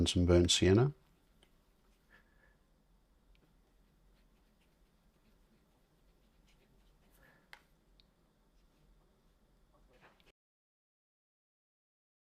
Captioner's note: silence